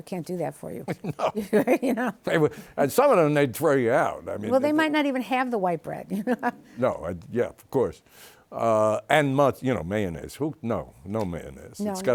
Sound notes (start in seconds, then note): 3.4 chuckles